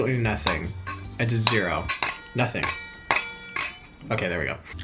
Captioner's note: metal clanging